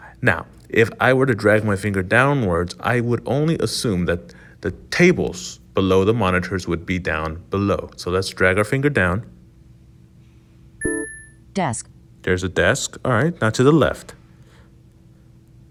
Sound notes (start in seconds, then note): 10.8 ping